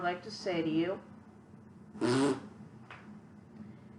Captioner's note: farting noise